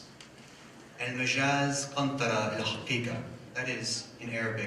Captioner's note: speaks in foreign language